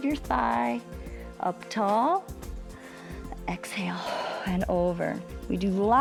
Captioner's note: exhales